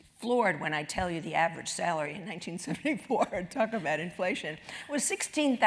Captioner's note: laugh